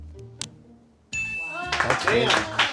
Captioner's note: bell chimes; crew applauds